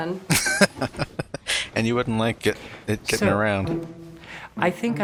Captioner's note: laughing